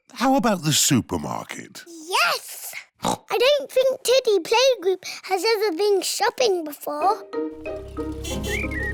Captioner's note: oinks